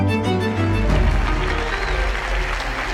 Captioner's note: applause